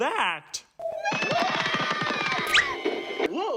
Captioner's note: all scream